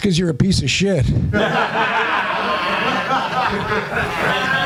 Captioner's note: laughter